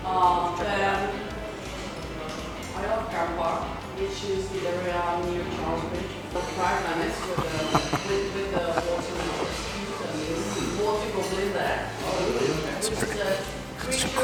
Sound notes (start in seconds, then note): 6.6 laughing